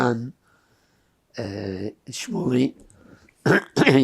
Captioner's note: clears throat